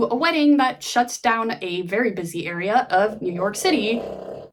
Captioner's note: dog snores